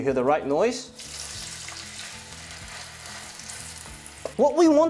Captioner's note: sizzling sound